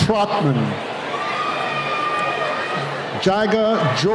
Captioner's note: cheering